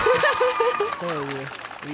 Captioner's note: laughs; audience applauding